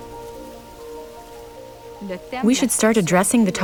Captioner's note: speaking French with translation